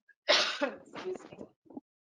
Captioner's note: clears throat